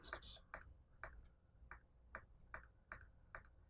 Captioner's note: clicking